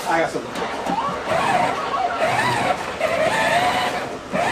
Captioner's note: sleigh whirring